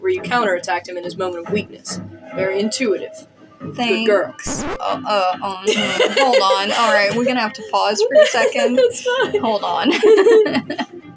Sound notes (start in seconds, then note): 4.4 record Scratch; 5.6 laugh; 8.5 laugh; 9.7 laughing